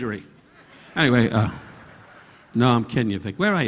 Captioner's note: audience laughing